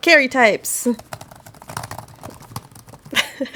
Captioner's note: loud keyboard typing